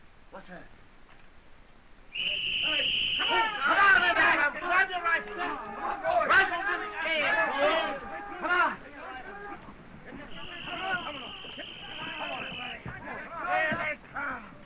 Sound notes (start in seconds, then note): 2.1 whistle blowing